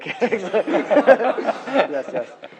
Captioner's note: laughter